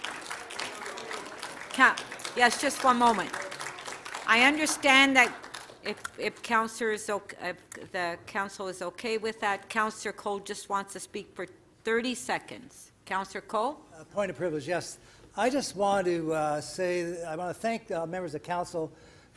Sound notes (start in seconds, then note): 0.0 applause